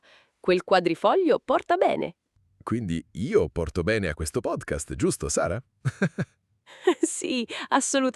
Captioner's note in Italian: risate